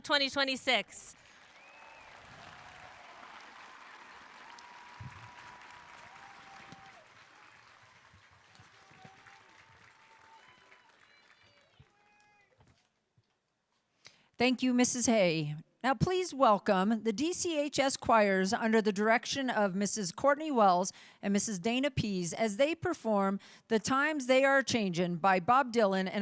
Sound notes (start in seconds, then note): 7.9 cheering